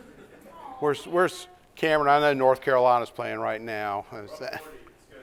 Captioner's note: laughter